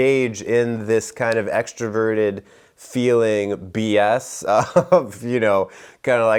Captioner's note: laughs